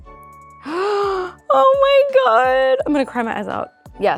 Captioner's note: gasps